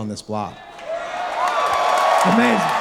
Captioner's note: audience cheering